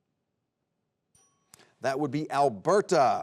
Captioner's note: bell dings